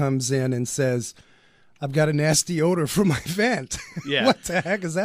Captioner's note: laughs